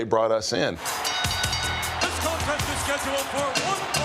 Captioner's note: bell rings